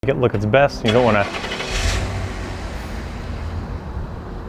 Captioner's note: engine roaring